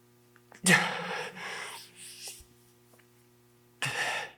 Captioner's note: Jacob gasps